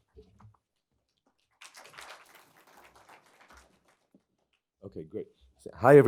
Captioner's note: applause